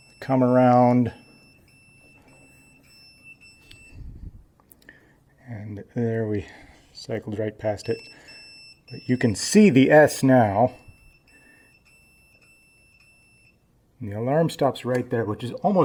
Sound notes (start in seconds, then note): 4.0 beeping stops; 7.7 beeping starts; 13.6 beeping stops